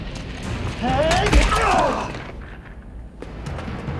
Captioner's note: grunts; yelling